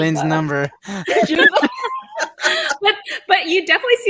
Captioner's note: everyone laughs